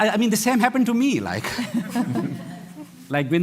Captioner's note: laughter